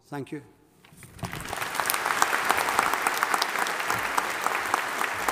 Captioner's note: audience applauding